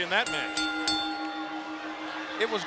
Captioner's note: bell chiming